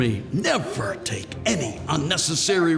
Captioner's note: none